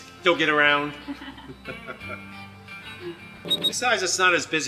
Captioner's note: chuckling